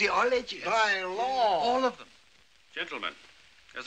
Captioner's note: none